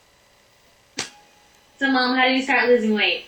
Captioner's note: voiceover